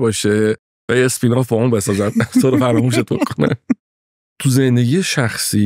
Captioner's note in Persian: خنده